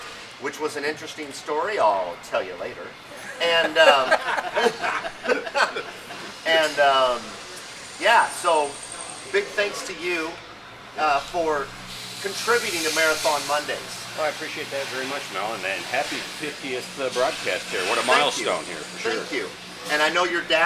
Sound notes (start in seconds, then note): 3.1 laughing